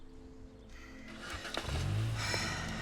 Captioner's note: car starting; Sharon sighs